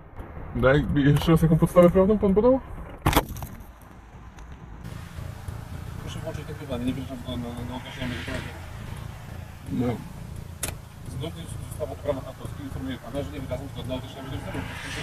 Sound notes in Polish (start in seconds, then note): 3.1 dźwięk wyrywanego sprzętu